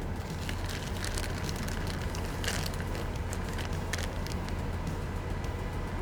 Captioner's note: soft music; bag crinkling